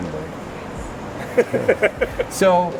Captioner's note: laughing